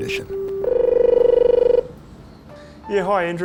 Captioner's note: telephone ringing